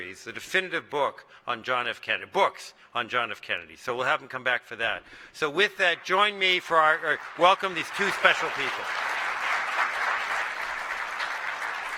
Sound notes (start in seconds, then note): 8.7 applause